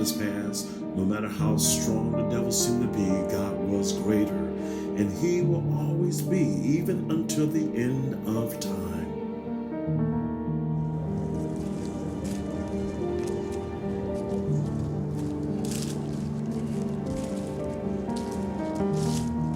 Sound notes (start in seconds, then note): 11.7 pastor speaking faintly